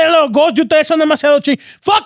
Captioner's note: speaking In Foreign Language